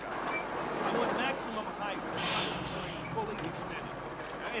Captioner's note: engine rumbles